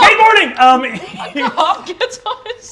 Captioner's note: laughter